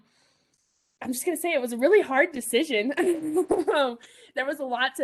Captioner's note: laughs